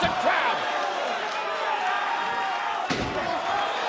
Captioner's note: crowd shouting